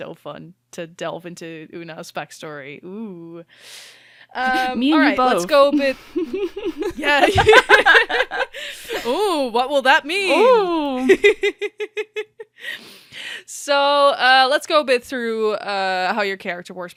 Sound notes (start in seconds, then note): 5.7 laughter; 7.1 laughs